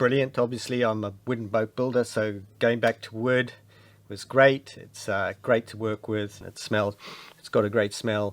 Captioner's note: sniff